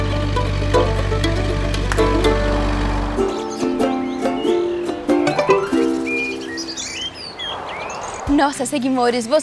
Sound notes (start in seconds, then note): 3.0 birds; 5.1 notification; 6.2 birds